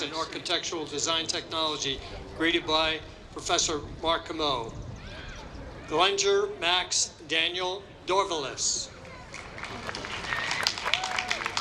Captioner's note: applause